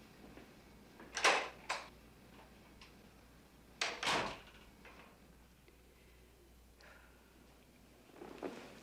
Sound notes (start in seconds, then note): 3.9 door shuts; 6.3 sighs